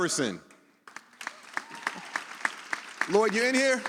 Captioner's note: audience applauds